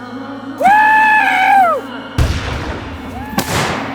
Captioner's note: gun banging